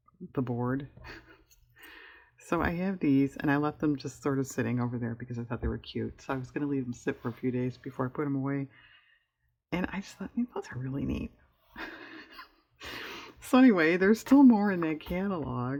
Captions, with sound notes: the board so i have these and i left them just sort of sitting over there because i thought they were cute so i was going to leave them sit for a few days before i put them away, and i just thought those are really neat (laughs) so anyway there's still more in that catalog